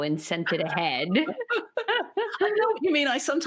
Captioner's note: both chuckle